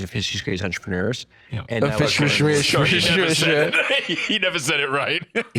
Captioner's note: slurring